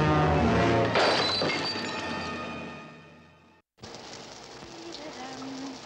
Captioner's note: glass shatters; humming